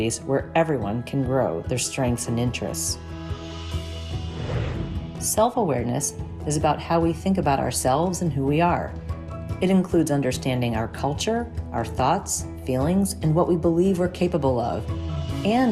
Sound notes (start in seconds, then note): 3.2 gentle upbeat music; 3.2 graphic whooshes